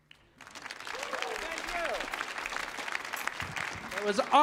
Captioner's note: audience applauding